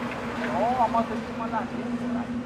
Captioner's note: wind